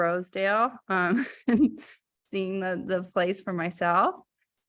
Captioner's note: laughter